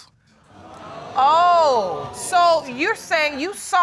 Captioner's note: audience exclaiming